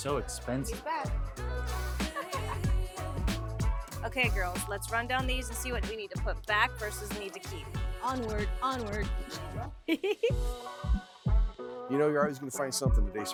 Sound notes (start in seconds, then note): 0.2 upbeat music continues; 9.9 giggles